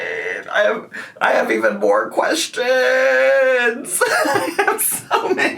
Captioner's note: chuckles